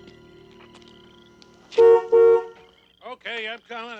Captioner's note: honks horn